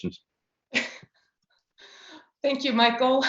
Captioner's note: laughs